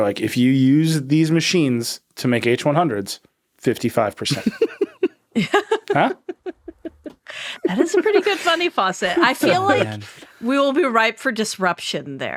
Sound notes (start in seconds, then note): 4.2 all laughing